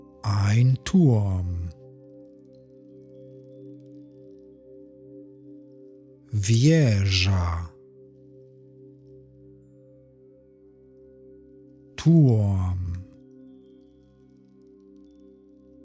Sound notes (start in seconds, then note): 1.8 german; 13.3 german